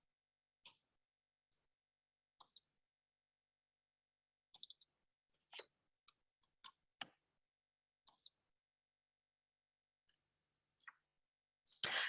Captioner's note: silence